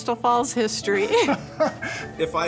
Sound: both laugh

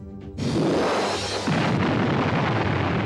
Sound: explosion

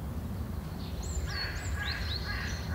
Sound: crows calling

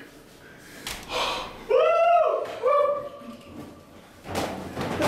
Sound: cheering

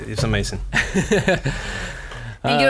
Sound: laughs

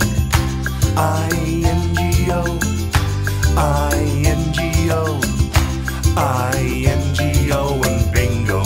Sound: clap

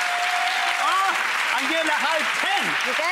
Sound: audience applause

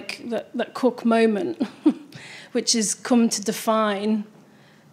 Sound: chuckles

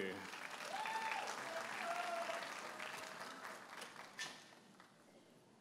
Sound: audience applauding and cheering

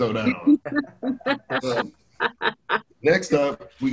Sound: multiple speakers laugh

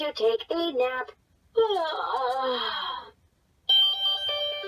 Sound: yawning

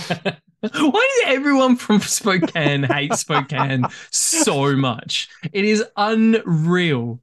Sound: laughs

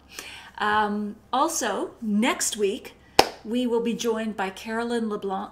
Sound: claps

